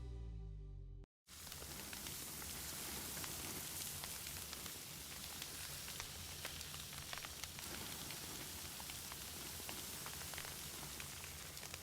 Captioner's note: sizzling steak on a grill